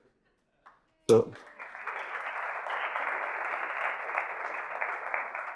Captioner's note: audience applauding